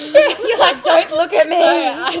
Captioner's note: laughing